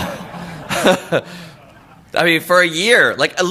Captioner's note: laughter